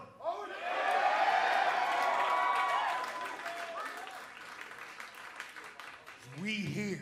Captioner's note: cheers and applause